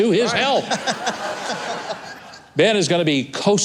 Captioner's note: laughter